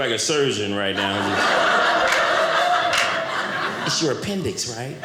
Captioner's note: audience laughing